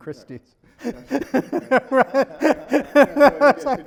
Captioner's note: laughs